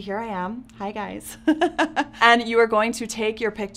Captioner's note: laughs